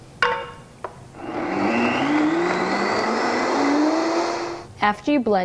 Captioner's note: blender grinds